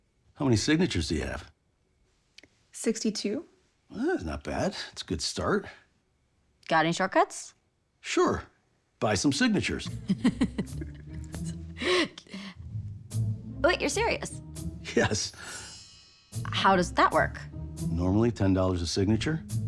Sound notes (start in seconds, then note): 9.8 laughs